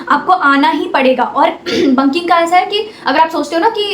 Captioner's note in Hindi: गला साफ़ करने की आवाज़